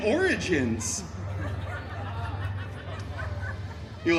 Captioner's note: guests chuckling